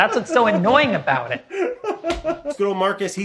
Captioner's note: laughs